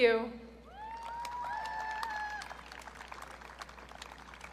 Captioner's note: audience cheering